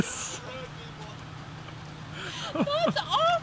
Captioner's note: laughing